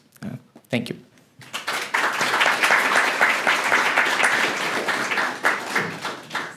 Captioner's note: applause